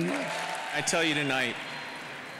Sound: applause

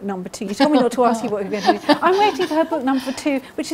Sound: laughing

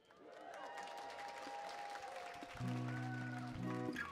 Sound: audience cheering; gentle guitar music

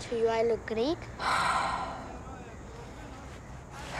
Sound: sighs

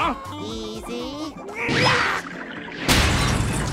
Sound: grunting; crashing

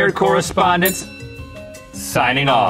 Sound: bell dings

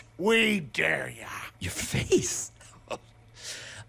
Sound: laughing

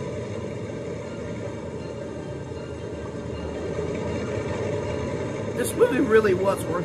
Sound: plane revving

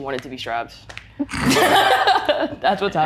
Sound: participants laugh

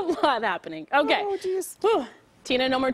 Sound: laughter

